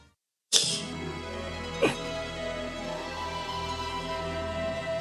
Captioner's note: laughs softly